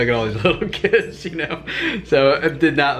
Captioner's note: laughs